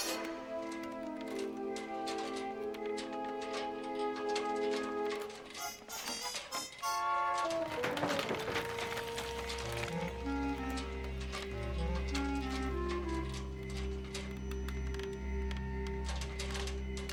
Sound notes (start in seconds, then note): 8.2 rocks clattering; 10.5 dramatic music